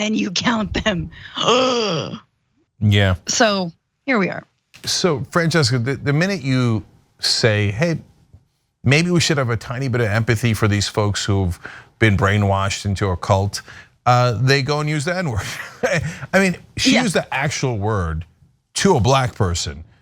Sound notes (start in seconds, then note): 15.4 laugh